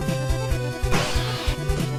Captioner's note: high-pitched scream